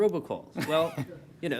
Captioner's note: laughter